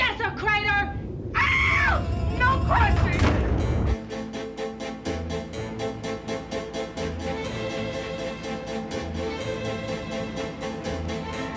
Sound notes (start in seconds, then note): 1.3 screaming; 6.6 upbeat violet playing